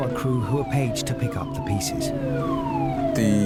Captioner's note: siren blaring